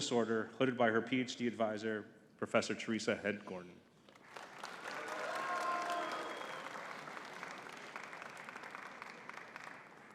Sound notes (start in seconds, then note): 4.2 audience cheering and clapping